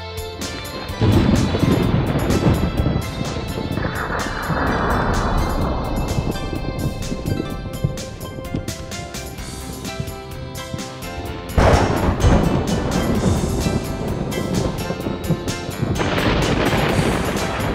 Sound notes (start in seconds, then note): 1.7 thunder crashing; 12.1 thunder crashing